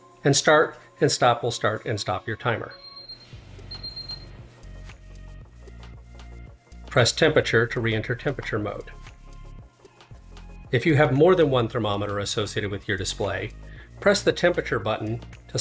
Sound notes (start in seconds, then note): 2.7 device beeping